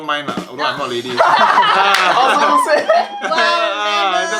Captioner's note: laughs